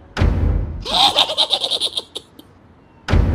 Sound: evil laugh

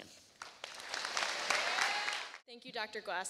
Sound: applause

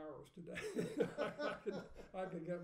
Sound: laughing

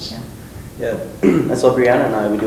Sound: clears throat

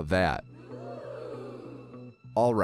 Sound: studio audience

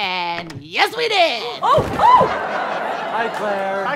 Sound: screams; audience laughter

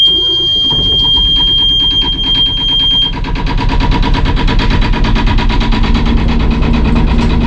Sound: starting the engine

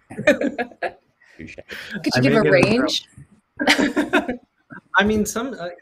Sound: laughs

